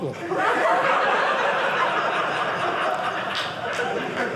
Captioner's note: audience laughing